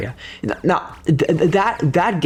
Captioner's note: stutter Moment